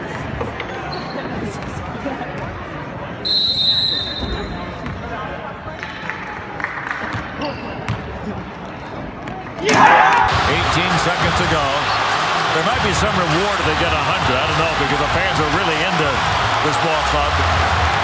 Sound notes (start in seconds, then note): 3.2 whistle blows; 9.6 crowd cheers